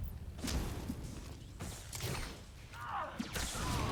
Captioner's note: gunshots